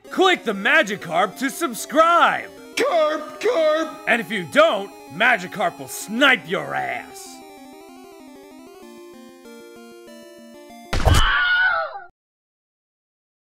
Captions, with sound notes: - Click the Magikarp to subscribe! - Karp! Karp! - And if you don't, Magikarp will snipe your ass. (happy music) (gunshot, loud scream)